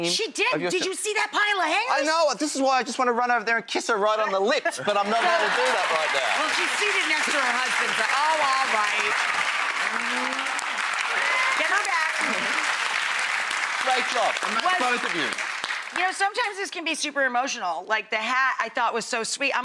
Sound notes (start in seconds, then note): 6.7 crowd applauds; 9.6 cheers